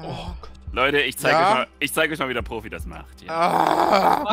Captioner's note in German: aah